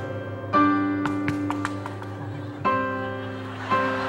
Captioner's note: Don clapping hands; participants clapping hands; audience laughing